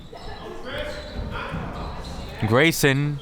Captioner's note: crowd members shouting